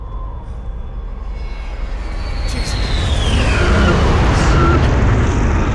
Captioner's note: jet engines roaring